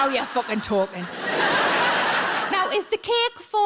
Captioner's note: audience laughs